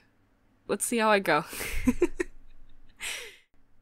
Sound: giggle

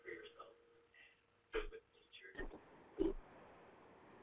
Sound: audio interference

